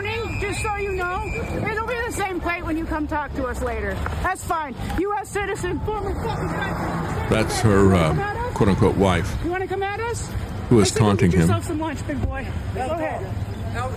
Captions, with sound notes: He's like, "I'm not mad at you." It's okay, we don't change our plates every morning, just so you know. Don't be on the same plate when you come talk to us later. That's fine. You are a citizen. (Sirens Blaring) That's her quote unquote wife. You wanna come at us?